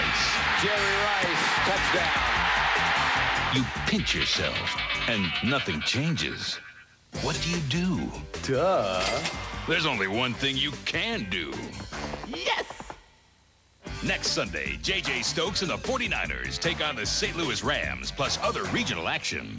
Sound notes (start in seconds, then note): 0.0 cheers continue; 0.0 crowd cheers; 4.4 dreamlike sound; 8.4 cash register ka-ching